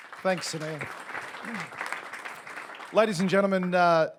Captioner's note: audience applauds